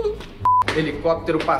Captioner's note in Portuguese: som de bipe